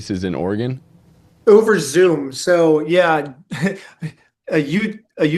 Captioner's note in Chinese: 笑声